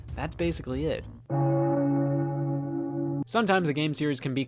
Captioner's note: bell toll